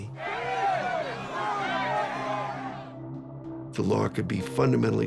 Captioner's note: shouting